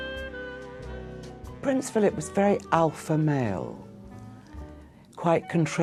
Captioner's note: voiceover